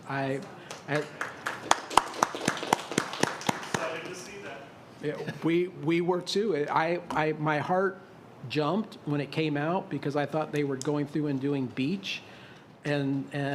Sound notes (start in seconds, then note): 4.8 applause